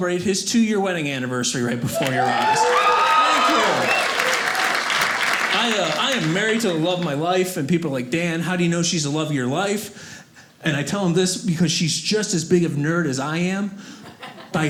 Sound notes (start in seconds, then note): 4.2 audience cheers